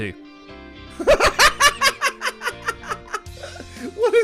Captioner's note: madman laugh